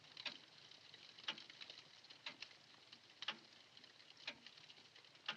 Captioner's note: ticking continues